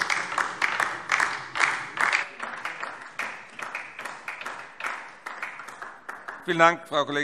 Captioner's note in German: Beifall DIE LINKE